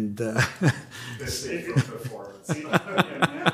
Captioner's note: laugher